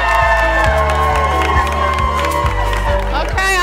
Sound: applause

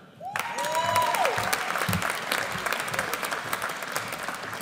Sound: audience applauds

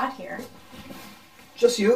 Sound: rustling sound

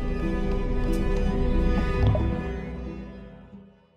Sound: water floods

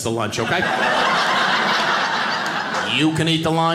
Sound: audience laughing

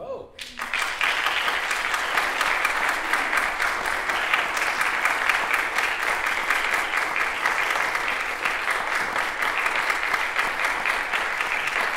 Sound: applause

